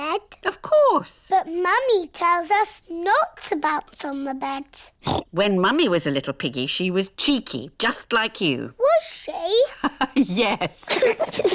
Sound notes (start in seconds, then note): 5.0 oinks; 9.6 both giggle; 10.6 laughs